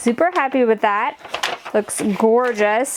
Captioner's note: paper rattles